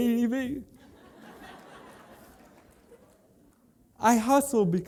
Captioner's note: laughter